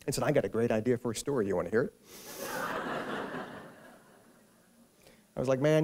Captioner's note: laughter